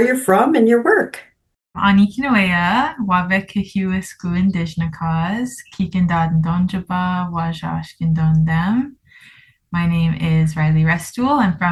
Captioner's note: Speaks in Anishinaabemowin